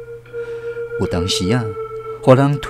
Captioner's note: tang